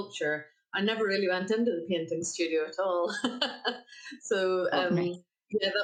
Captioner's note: laughs